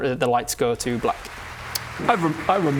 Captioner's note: applause